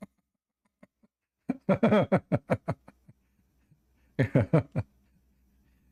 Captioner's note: Ketawa